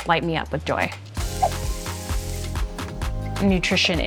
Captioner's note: chicken sizzling